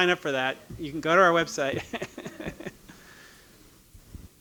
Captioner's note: laughing